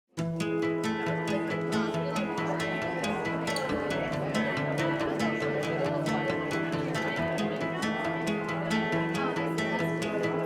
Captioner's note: crowd chatter